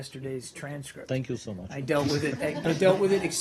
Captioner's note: laughter